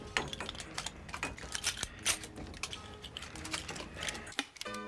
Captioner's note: guns cocking